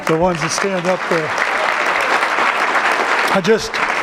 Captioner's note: applause